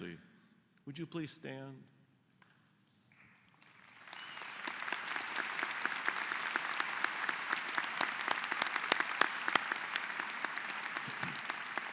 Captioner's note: applause